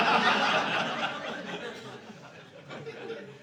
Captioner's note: audience laughing